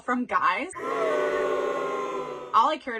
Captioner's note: crowd booing